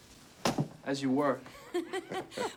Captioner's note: clicking heels